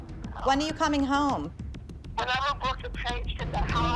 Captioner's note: on phone